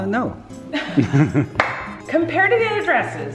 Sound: laughing

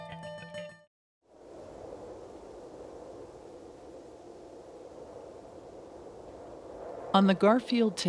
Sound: wind sweeping through

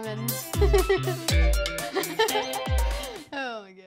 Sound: laughs

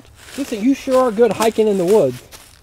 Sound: voiceover

